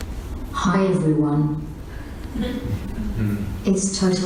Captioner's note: laughs